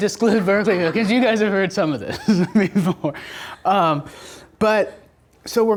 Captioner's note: laughs